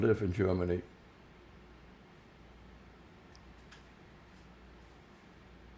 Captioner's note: pauses 6 seconds